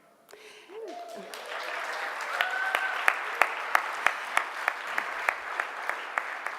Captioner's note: audience clapping and cheering